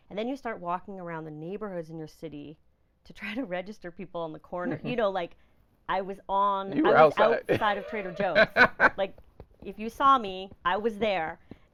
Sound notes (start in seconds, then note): 7.4 laughing